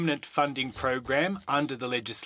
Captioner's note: speaking French